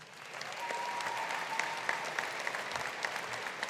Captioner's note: audience applauding